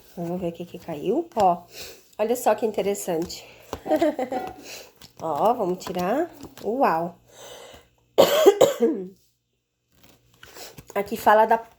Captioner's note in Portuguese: limpando a garganta